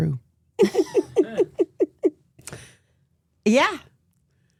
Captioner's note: Steph and Elyse laughing